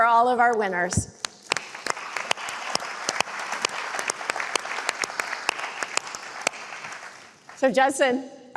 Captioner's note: applause